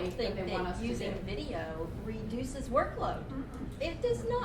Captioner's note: voiceover